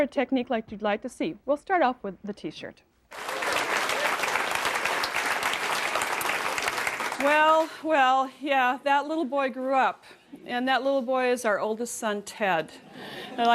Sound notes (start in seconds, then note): 3.1 applause